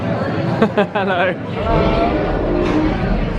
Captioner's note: laughing